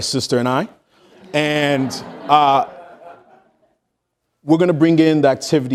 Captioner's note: audience laughing